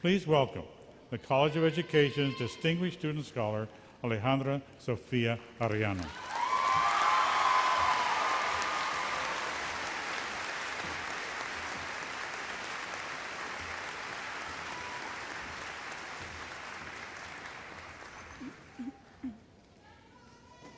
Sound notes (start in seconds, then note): 6.8 applause